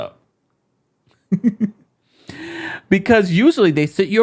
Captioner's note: laughing